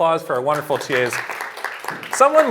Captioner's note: applause